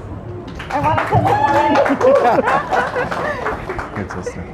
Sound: applause

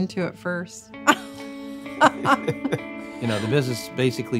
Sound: laughs

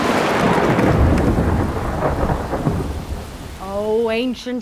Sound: thunder cracking

